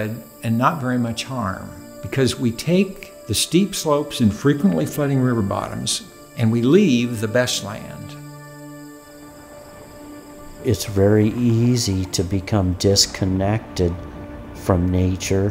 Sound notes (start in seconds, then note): 9.0 traffic noise